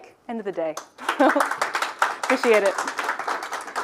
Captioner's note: audience clapping